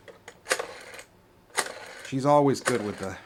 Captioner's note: rotary phone dialing